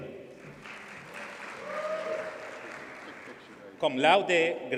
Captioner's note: audience cheers and applauds